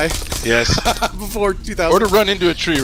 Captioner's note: laughing; still laughing